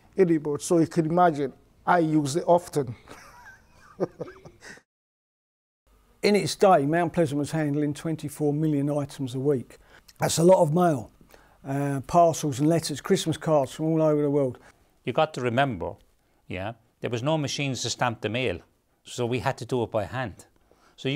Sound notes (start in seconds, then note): 3.0 he chuckles